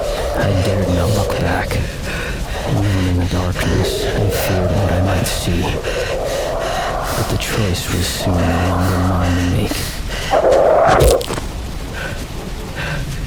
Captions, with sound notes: 'I dared not look back.' 'Even in the darkness, I feared what I might see.' 'But the choice was soon no longer mine to make.' [creature growling] [THWACK!]